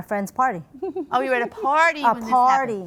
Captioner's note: judge #2 giggling